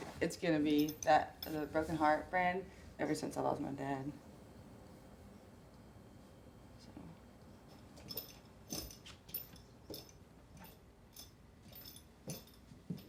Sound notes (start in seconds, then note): 8.2 spurs rattling